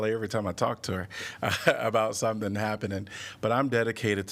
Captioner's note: laughter